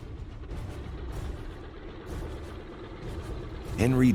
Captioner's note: airplane engine roaring